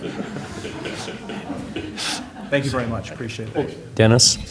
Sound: laughter

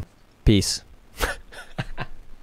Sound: laughing

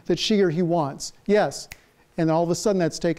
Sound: snaps fingers

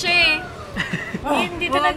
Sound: laughing

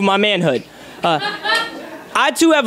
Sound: audience member laughs

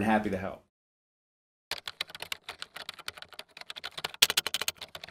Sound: keyboard clicking

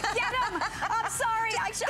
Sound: laughter

